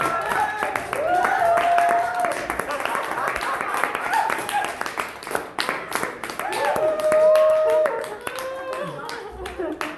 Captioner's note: audience cheers and applauds and laughs